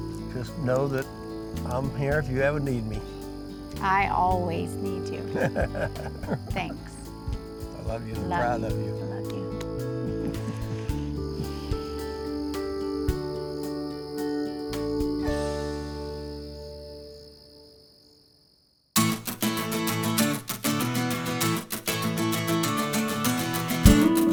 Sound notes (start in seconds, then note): 5.3 laughs; 12.4 peaceful music ends; 19.4 closing music